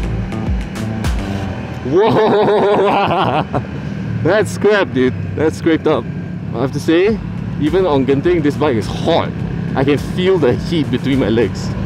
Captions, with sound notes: *Footpeg scrapes* *Laughter* Woooo! that’s scraped dude. That scraped up. Well, I have to say, even on Genting, this bike is hot! I can feel the heat between my legs.